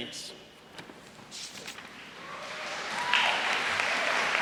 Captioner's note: cheers and applause